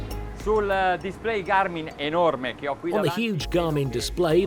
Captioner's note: speaking in foreign language